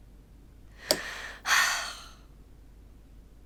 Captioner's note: sighs